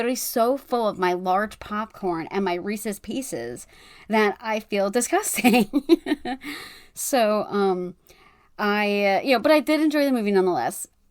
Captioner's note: laughs